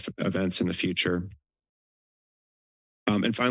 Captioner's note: pause